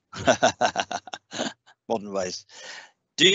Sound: laughing

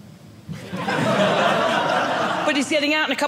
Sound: audience laughing

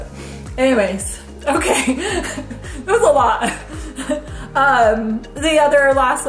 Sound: laughs

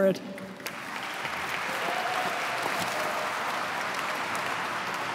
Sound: audience clapping

